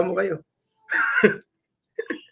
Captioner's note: laugh